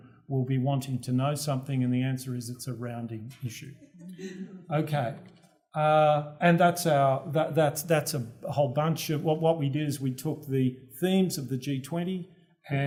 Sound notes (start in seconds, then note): 3.8 laugh